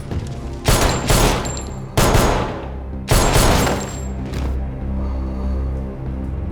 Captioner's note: tense music; gun firing